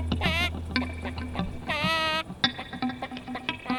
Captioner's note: dying rooster